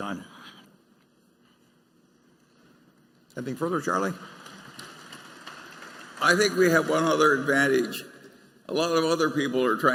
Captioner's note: applause